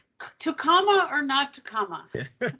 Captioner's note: laughing